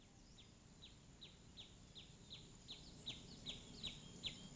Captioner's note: birds